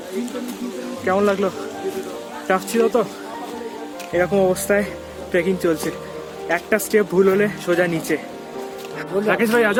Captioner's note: laugh